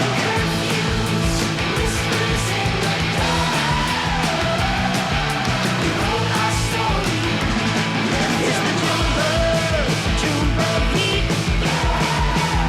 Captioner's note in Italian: urlo